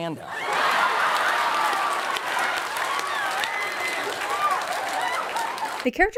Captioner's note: laughter and applause